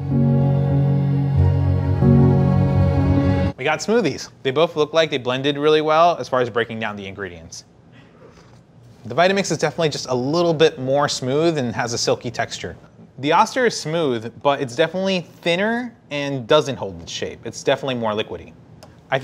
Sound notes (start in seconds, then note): 0.0 slow orchestral music; 7.9 slurping